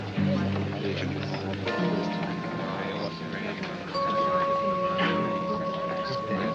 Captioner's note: chatter